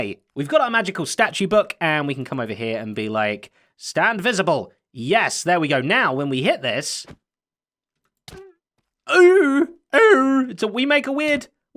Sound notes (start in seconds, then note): 7.8 thorns noise